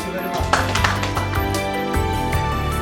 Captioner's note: audience applause; bright synthesizer music